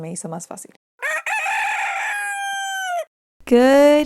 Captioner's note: roosters crowing